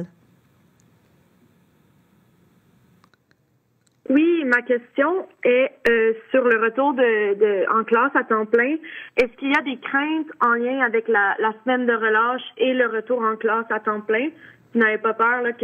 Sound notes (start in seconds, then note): 0.9 speaking French